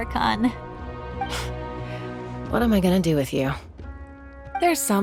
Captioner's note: sigh